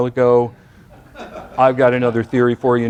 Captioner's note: laughter